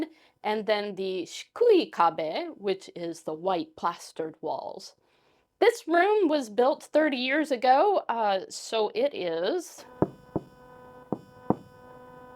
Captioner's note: knock, knock